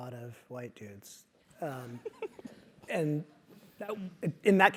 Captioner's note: laugh